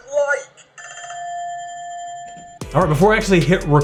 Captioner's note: ringing